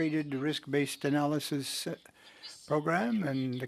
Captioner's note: speaking French